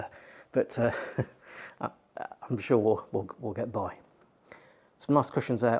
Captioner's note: chuckles